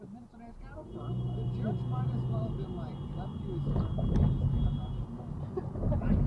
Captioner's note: car across laying on horn